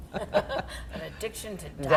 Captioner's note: laughter